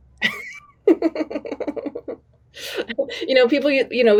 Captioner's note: laughing